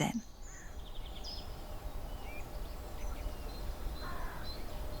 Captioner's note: birds chirping